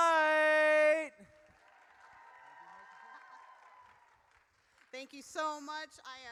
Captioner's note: audience cheers